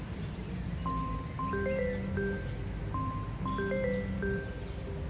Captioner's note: phone ringing